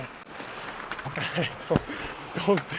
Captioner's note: Xhekaj laughs